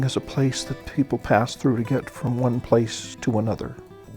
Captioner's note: voiceover